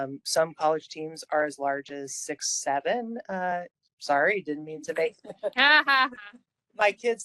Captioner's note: laughing